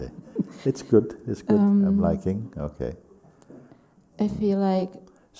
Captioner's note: laughs